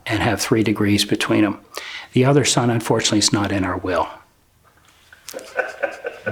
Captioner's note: laughter